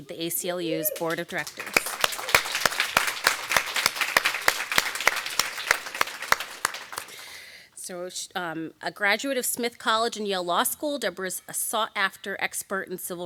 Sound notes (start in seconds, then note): 0.8 audience applauding